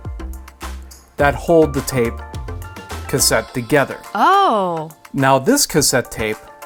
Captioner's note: female voice: Ohhh